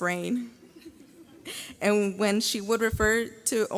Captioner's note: graduates laugh